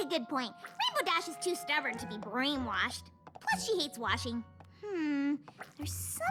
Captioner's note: happy sigh